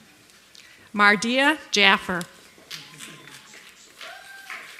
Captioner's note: applause